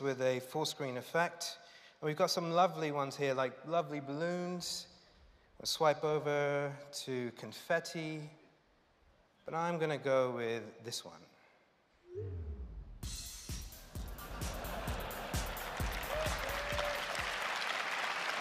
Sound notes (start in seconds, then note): 14.0 laughter and applause